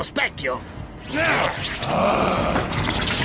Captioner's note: snarls